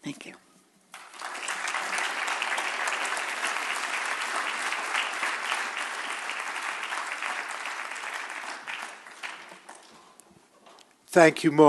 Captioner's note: applause